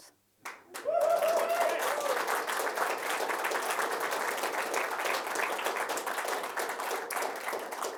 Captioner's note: applause, cheering